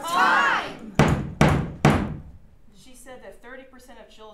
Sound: knocking

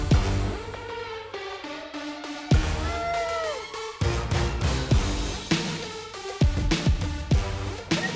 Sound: groans

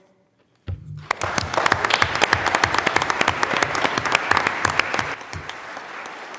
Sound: audience and board members applauding

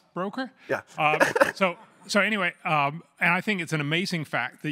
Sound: laugh

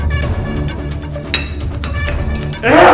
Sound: metal clanks

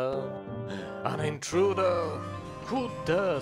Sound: gasp

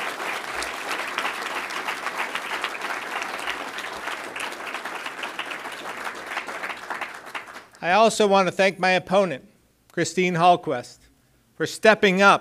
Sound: applause

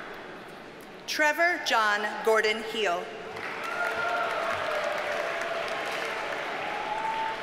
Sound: audience cheers and applauds

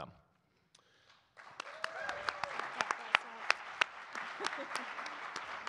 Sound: audience clapping and cheering

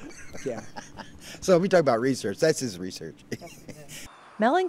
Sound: laughter

